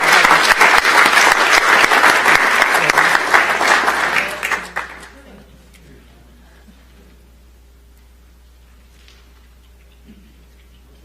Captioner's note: applause